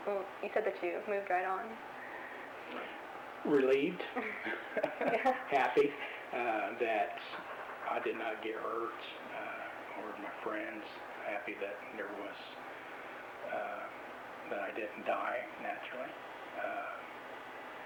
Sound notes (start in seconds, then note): 4.0 both laugh